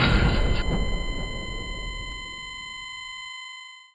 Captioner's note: dramatic music; EKG machine beeps